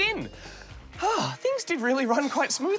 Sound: sighs

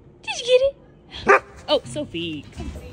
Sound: Sophie barks

